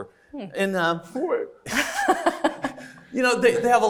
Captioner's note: laughs